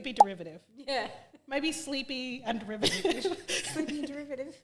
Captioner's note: laughing